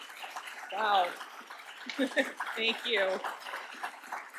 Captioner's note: applause